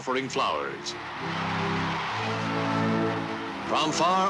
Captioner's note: crowds cheering